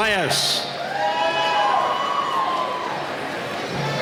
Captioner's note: cheering